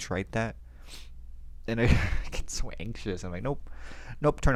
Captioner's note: laughs